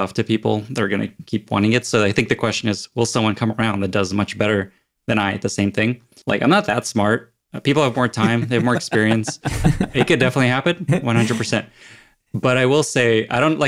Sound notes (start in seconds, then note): 8.0 laugh